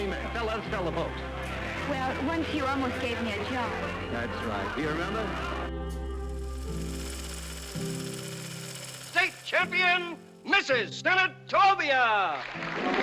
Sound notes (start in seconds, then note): 5.5 gentle music; 6.2 film reel whirs; 12.2 applause